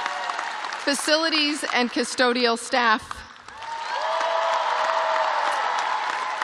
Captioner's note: cheers and applause